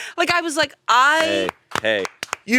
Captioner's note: both applaud her